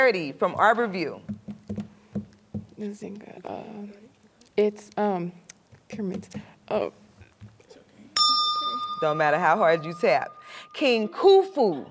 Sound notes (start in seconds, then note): 8.1 bell rings, time expires